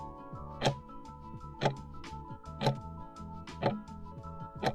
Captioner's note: timer ticking